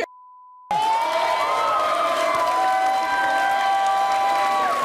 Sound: audience cheering

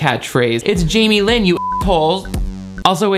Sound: beep

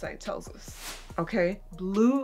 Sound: woosh

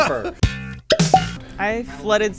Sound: laughing; popping noises

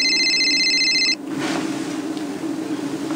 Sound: cell phone rings

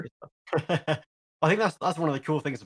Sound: he laughs

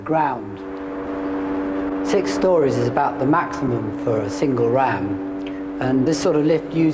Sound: machinery humming

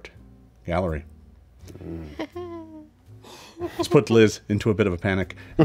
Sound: laughs nervously

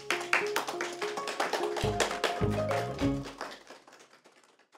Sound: applause

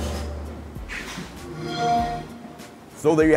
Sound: electronic chiming

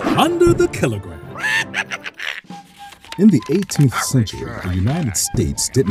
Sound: laugh

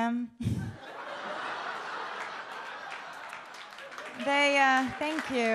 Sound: audience laughs and claps

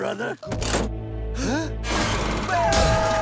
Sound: gasping; screaming

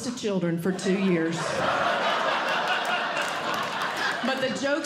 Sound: audience Laughing

